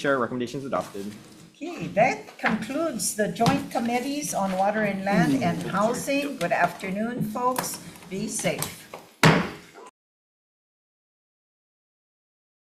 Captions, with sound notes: Chair, your recommendation's adopted. - Okay, that concludes the Joint Committees on Water and Land, and Housing. Good afternoon, folks, be safe. (gavel taps)